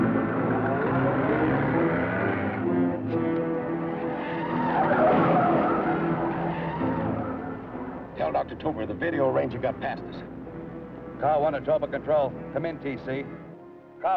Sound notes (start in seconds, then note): 0.2 motorcars rumbling; 4.5 tires screeching